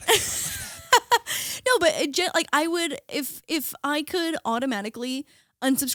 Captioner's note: laughing